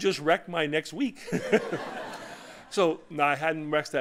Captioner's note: laughter